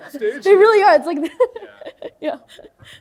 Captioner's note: chuckles